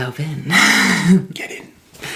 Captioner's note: laughs